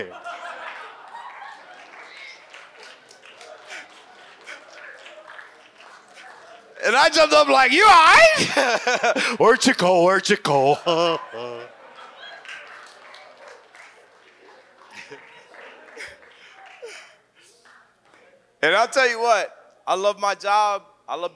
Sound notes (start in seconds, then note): 0.0 audience laughs and applauds; 9.0 laughs; 10.6 audience laughs; 10.7 laughs